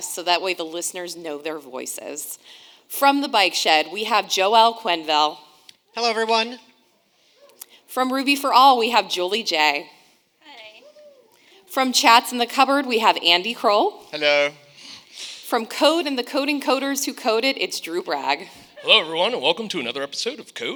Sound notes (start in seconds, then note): 18.8 audience laughs